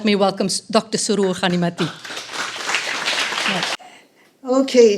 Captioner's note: applauding